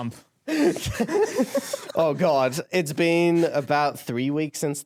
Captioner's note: laughing